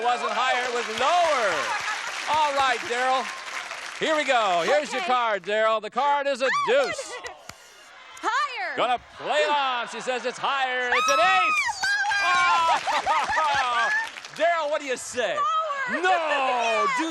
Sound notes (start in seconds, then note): 0.0 applause; 6.4 delighted yell; 10.9 happy screams